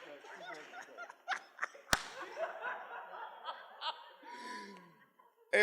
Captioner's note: laughs